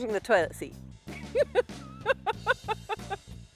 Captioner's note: laughs